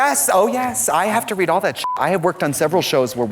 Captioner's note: beep